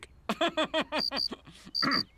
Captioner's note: narrator laughs; crickets chirping